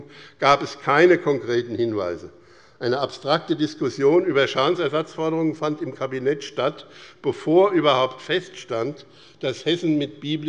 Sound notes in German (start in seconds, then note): none